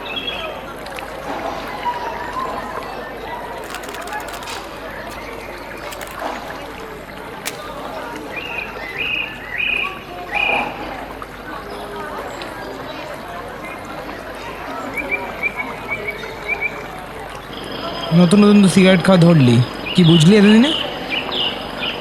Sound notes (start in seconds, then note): 7.4 lighting match